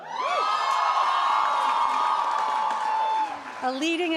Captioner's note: audience cheering and applauding